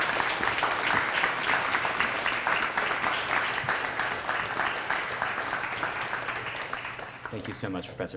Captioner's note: applause